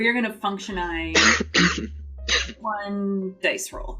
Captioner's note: coughs